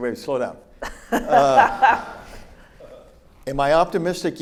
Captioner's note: laughs; audience laughs